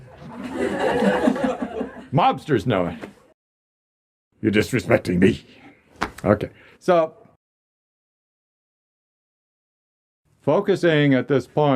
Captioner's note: laughter